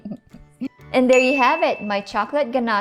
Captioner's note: chuckling; ding